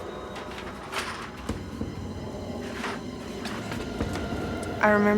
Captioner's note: door unlocking